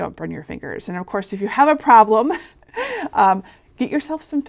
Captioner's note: chuckling